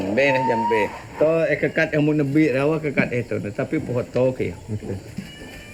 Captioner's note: speaking in foreign language